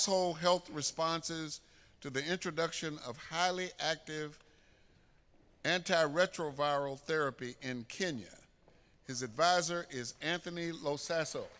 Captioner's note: applause